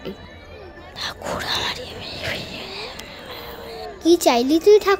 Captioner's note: whispers